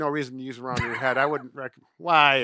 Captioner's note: laughs